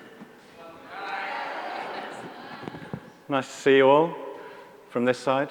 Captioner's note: audience murmuring